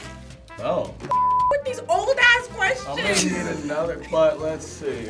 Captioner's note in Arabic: صفارة